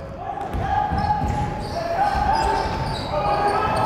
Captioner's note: yelling